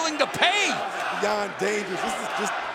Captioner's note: fans chanting